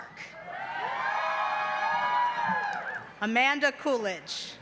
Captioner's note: cheering